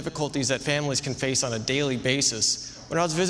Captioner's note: none